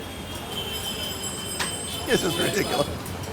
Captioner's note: bell ringing